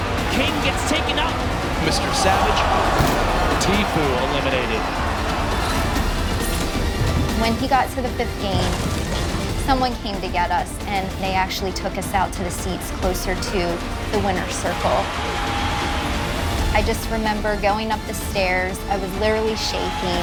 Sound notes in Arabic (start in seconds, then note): 2.9 يضرب على الطاولة